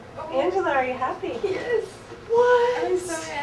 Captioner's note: tearful